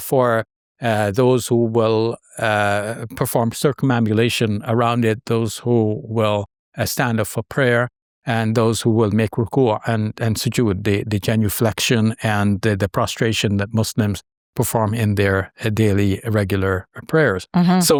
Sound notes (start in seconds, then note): 9.6 speaks foreign language